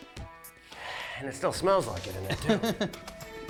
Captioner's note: exhales; laughs